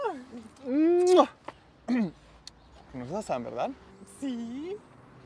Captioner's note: carraspea